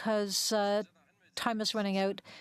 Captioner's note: speaking French